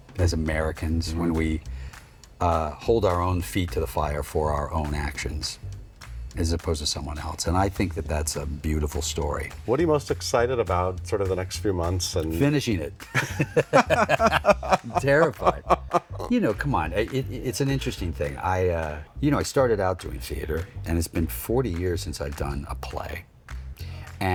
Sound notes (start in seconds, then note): 13.0 both chuckling